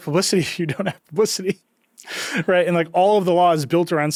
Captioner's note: chuckles